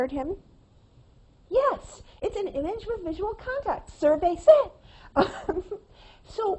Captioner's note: laughs